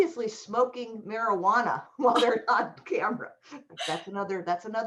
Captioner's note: laughter